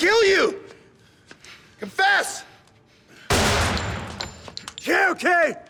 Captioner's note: gunshot